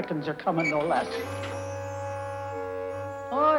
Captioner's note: ax creaks